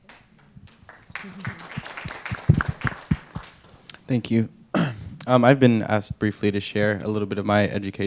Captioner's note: applause